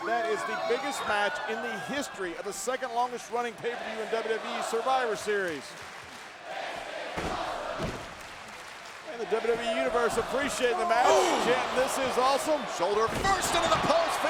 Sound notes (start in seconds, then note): 6.4 audience chanting